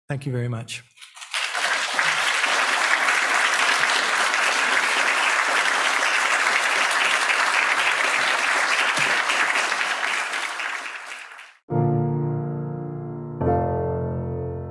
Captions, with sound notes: Thank you very much. (people applauding) (lively music)